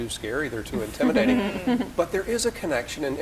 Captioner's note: laughing